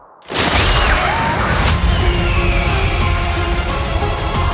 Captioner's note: loud shrieking